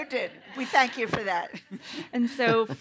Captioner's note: laughter